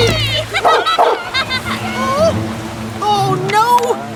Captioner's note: Radar Barks